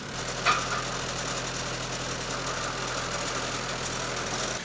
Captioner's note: none